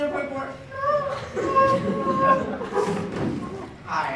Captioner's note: sobs squeakily